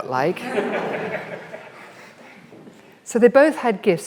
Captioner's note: audience laughs